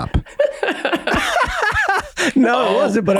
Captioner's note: all laugh